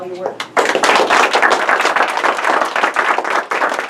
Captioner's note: crowd applause